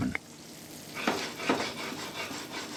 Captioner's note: sizzling